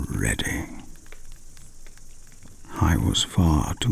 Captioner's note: fire crackling and night insect buzzing